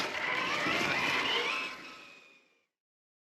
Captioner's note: vroom!